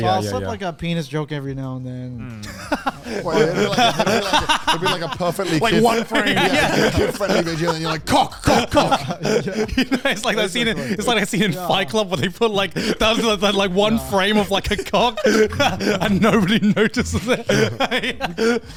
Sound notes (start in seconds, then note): 2.7 laughing; 16.9 laughs